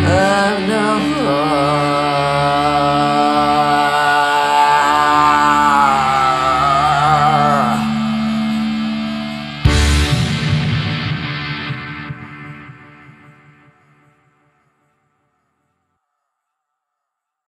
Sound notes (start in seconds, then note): 9.7 pow